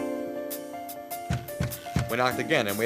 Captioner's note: louder knocking